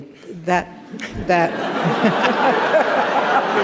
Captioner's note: laughter